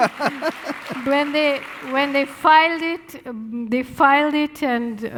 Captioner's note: laughing